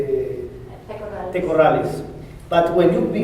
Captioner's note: spanish